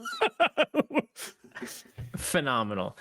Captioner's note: Omega laughing